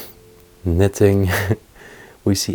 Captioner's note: chuckles